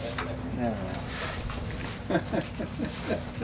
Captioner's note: chuckles